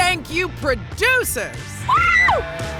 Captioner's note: screams